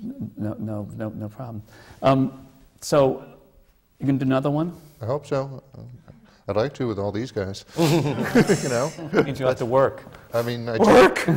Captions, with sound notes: So, you going to do another one? I hope so! I’d like to, with all these guys. (LAUGHTER) You know? It means you’ll have to work. Work?!